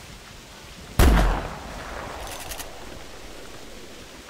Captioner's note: rifle shot